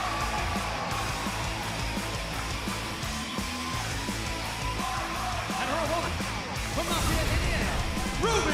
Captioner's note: cheers and applause